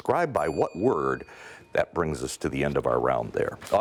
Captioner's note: ding